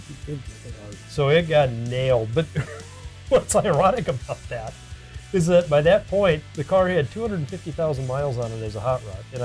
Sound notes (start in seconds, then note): 2.3 laughs